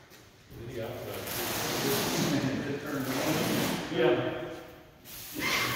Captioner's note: indistinct conversation; sprayer spraying